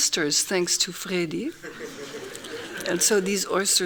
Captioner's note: laughing